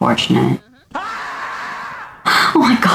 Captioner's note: scream